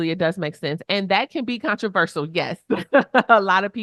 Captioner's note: chuckles